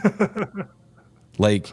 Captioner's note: laughter